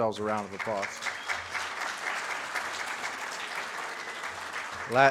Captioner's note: audience claps